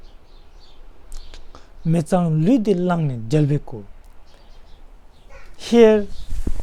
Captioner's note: tibetan